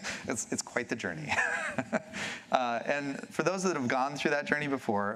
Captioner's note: laughs